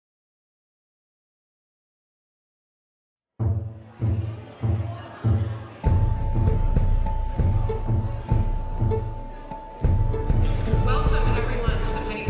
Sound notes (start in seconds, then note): 0.9 light music; 0.9 people chattering